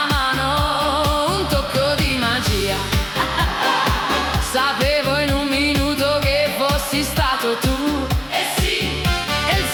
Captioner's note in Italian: ha ha